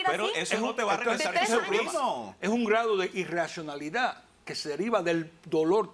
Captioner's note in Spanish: Hablan al unísono